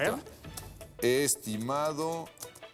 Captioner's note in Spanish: tecleo